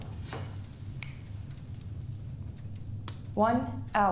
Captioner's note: finger snapping